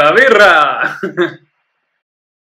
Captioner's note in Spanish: ríe